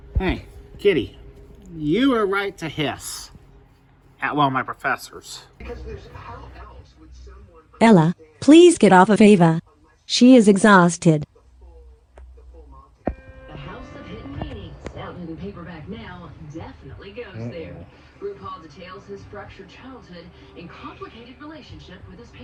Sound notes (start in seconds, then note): 11.6 TV continues playing